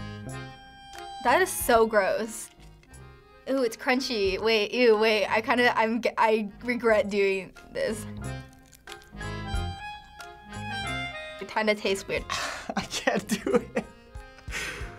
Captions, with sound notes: That is so gross! Ew, it's crunchy. Wait, ew, wait. I kinda-- I get-- I regret doing this. (crunching) It kinda tastes weird. - (laughing) I can't do it!